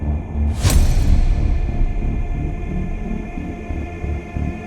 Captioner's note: image banging